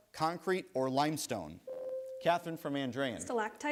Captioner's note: bell rings